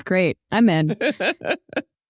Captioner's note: laughs